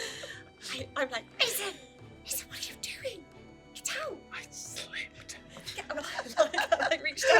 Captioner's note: whispers